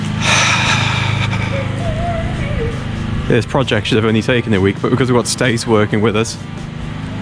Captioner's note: sighs